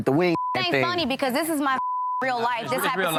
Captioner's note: beep